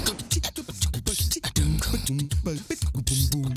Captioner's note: man beatboxing